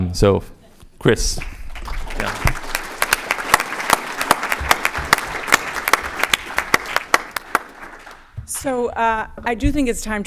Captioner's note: applause